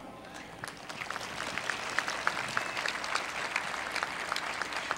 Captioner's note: applause